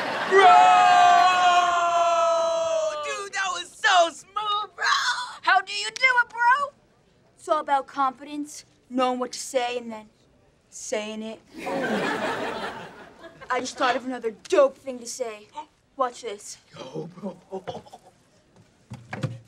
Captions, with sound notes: Bro! - Dude, that was so smooth, bro! - How do you do it, bro? It’s all about confidence, knowing what to say, and then saying it. I just thought of another dope thing to say. Watch this. [laughing]